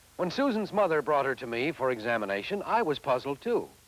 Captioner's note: none